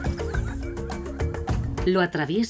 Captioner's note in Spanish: risas